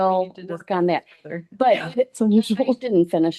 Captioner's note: indistinct clamoring